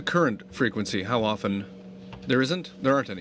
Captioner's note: speaking French